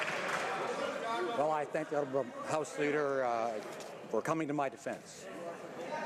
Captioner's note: some Applause